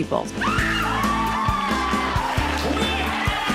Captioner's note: crowd cheering